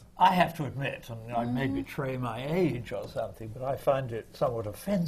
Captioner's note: none